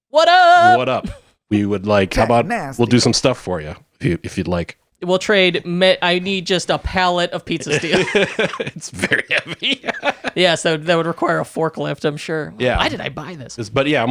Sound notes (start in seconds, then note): 7.5 laughing